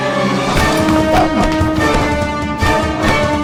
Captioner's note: fighting sounds